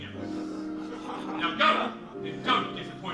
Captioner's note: laughter